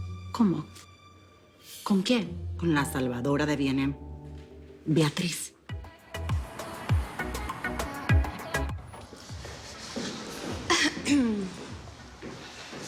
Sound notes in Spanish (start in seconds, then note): 10.6 Carraspea